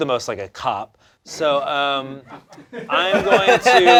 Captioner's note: laughter